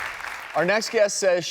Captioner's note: audience clapping